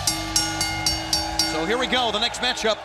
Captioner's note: bell ringing; crowd cheering